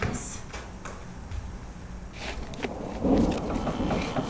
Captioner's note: thumping